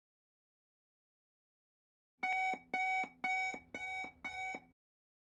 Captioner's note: alarm clock sound